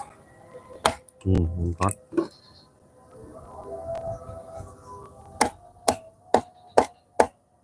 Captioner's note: bottle Hit by Hammer; bottle Hit by Hammer